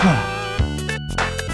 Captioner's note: upbeat playful music; grunts; upbeat playful music